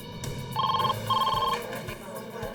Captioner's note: ringing phone